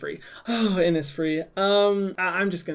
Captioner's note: sighs